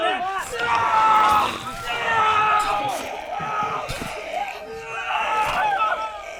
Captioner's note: screaming; growling